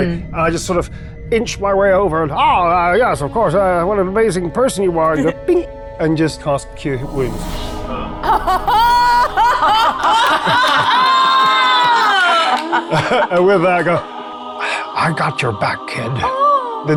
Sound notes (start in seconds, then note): 13.2 laughing; 13.2 fingers snapping; 13.2 players laughing